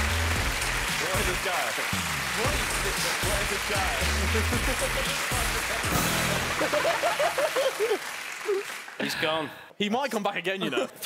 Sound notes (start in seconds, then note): 2.6 upbeat music; 4.8 applauding; 6.5 laughing